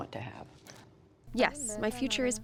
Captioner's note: through translator